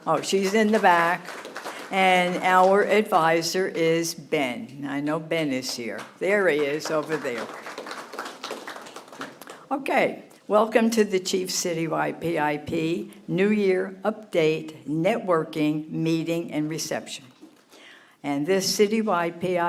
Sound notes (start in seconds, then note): 0.1 applause; 9.2 applause